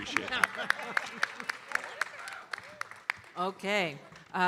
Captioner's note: audience applauding